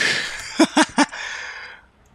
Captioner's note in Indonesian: ketawa